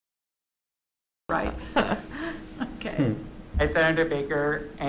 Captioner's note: chuckles